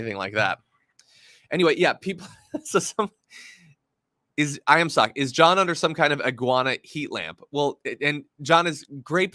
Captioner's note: laugh